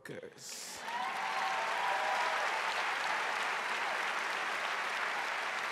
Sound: audience cheering and applauding

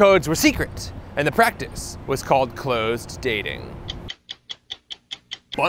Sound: ticking stopwatch

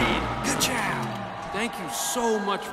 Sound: cheering

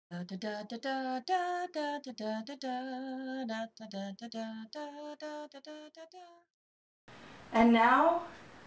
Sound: humming song

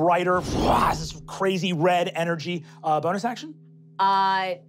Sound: growling

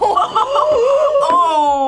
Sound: both gasping

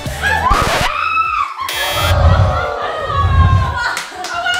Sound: record scratches; buzzer

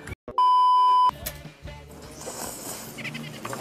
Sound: everyone is slurping noodles; slurping noodles

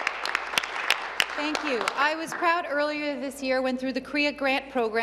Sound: applause

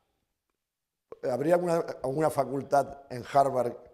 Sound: speaking spanish

